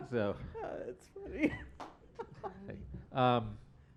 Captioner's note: laughter